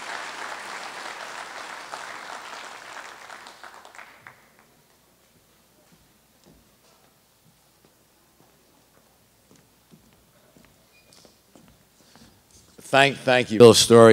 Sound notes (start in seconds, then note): 0.0 applause; 3.3 silence